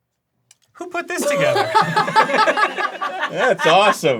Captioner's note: crew laughs